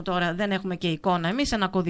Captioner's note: radio broadcasting